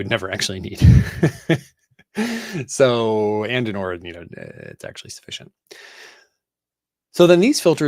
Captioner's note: laughs